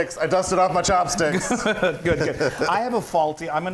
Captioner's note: laugh